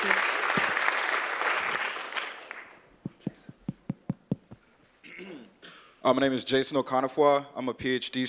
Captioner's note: cough